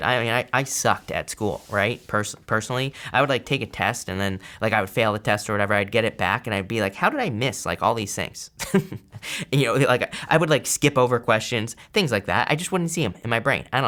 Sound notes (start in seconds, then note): 8.6 chuckles